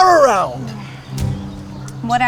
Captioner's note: groans